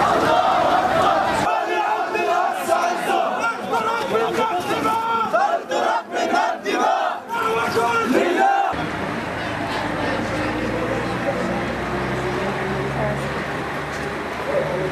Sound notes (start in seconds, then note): 8.7 silence, nearby traffic sounds